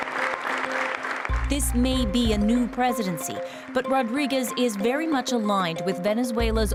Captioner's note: applause